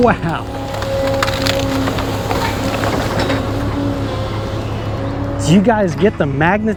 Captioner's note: machine whirring